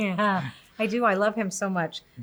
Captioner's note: laughs